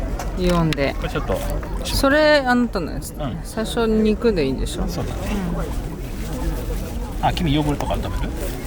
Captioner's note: laughs